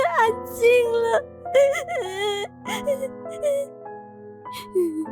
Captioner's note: sobbing intensely